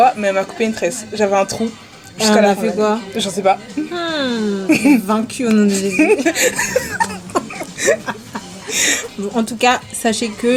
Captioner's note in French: rires